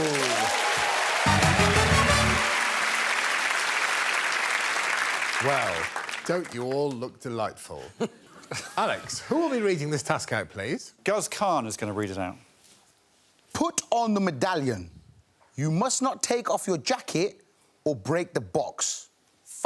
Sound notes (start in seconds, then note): 2.5 cheering